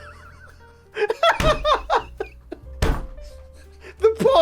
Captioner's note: laughs